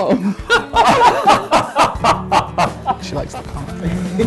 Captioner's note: laughter